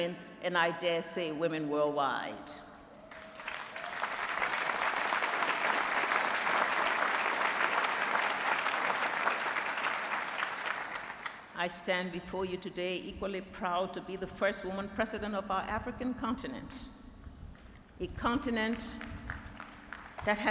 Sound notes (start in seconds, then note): 3.0 applause